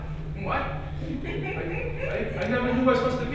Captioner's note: laughs